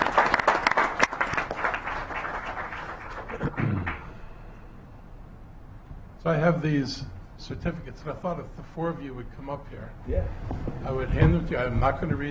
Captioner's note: clapping